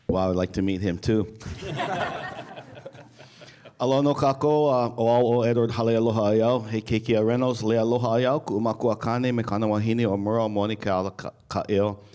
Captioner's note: laughter